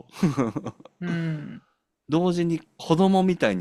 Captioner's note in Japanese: 笑い